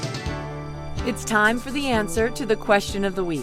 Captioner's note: voiceover